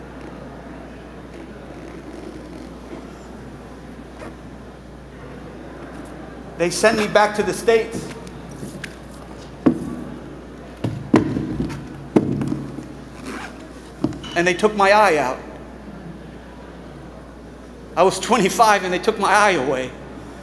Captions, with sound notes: They sent me back to the States, [boots squeaking] [chair thudding] and they took my eye out. I was 25, and they took my eye away.